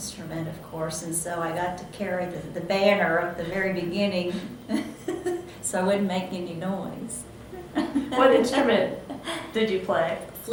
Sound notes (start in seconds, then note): 7.4 laughs